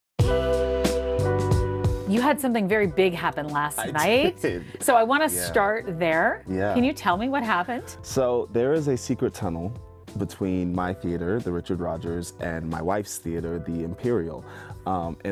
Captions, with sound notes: (upbeat funk music) - You had something very big happen last night... - (laughs) I did. Yeah. - So I wanna start there. Can you tell me what happened? - So there is a secret tunnel between my theater, the Richard Rodgers, and my wife's theater, the Imperial,